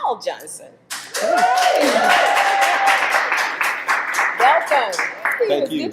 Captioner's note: audience applauding